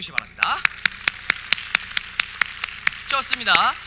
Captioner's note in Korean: 박수